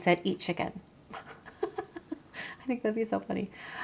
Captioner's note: chuckling